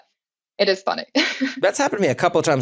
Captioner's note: laugh